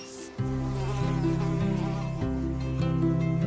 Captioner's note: bee buzzes